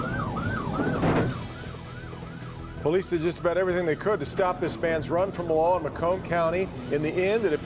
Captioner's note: siren; siren